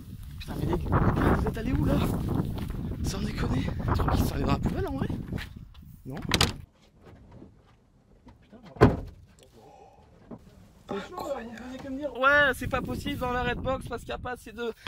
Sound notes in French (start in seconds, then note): 10.8 en chuchotant